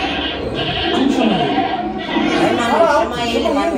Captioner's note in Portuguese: grunhidos continuam